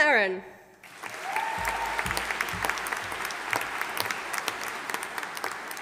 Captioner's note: audience applauding